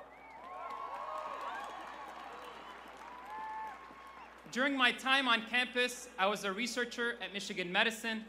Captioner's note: applause